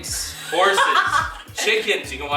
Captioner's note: laughs